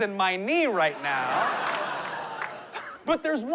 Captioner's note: laughter